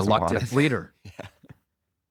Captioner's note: laughs